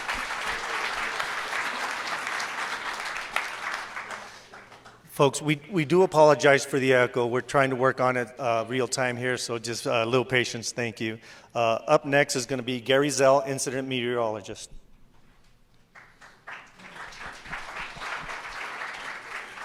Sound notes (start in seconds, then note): 2.3 applause; 19.4 applause